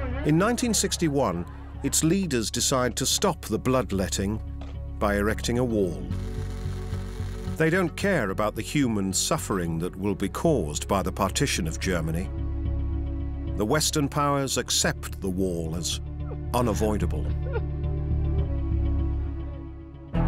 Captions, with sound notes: In 1961, its leaders decide to stop the bloodletting by erecting a wall. They don't care about the human suffering that will be caused by the partition of Germany. The Western powers accept the wall as unavoidable. [woman sobs]